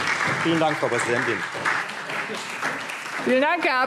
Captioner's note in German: Beifall Freie Demokraten und SPD